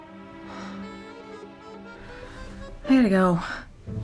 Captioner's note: sighs